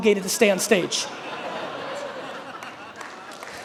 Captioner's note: audience laughing; audience applauding